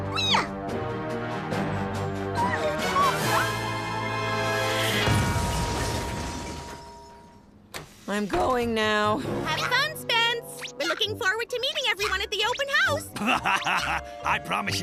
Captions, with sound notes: [crashing] I'm going now. Have fun. We're looking forward to meeting everyone at the open house. [laughing] I promise you this.